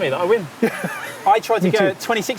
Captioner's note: laughs